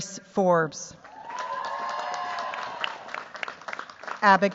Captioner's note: cheers, applause